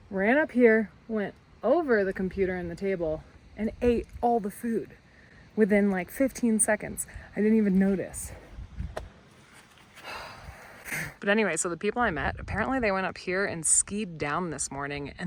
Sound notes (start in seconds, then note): 10.0 sighs